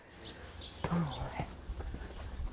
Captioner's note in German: Vogelgezwitscher